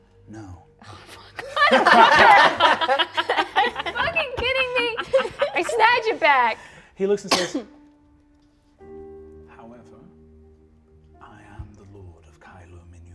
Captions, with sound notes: - "No." - Oh, fuck. Motherfucker! (all laughing) Are you fucking kidding me? I snatch it back. - He looks and says, "However, I am the lord of Kei Lumennura.